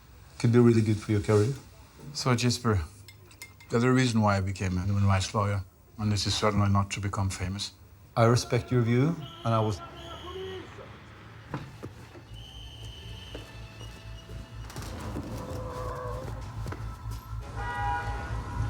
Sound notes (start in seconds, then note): 10.5 yelling; 12.2 whistle blowing